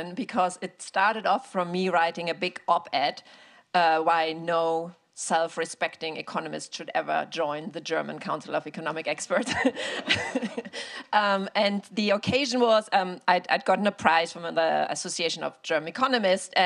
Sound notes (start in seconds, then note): 9.4 all laughing